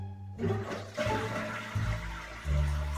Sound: toilet flushes

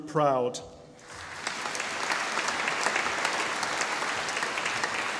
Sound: audience applauding

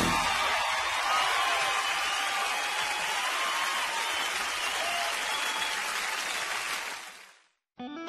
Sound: audience cheering

